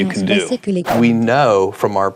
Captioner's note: whoosh